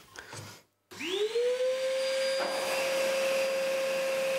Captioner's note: loud grinding noise